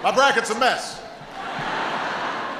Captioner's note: laughter